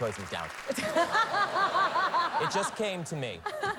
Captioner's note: laughs